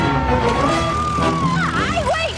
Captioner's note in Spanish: gritos